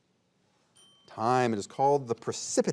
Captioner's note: bell ringing